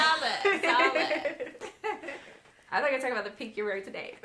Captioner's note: laughing